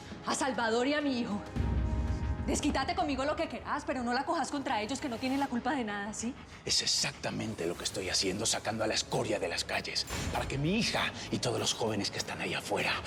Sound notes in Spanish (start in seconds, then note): none